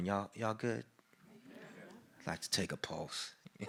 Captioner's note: crowd responds positively